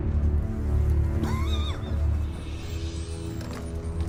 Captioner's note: dry cough